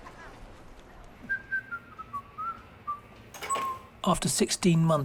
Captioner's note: worker whistling